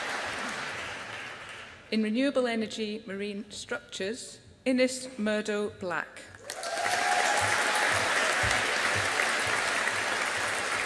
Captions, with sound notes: In Renewable Energy Marine Structures, Innes Murdo Black. (AUDIENCE APPLAUDING)